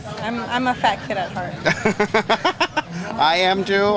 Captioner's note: laughs